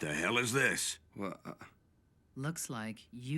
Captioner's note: stutters